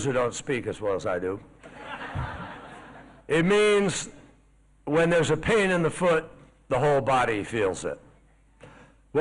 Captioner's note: laughter